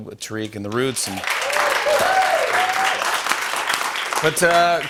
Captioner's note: cheers and applause